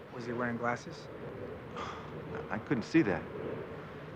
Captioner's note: sighs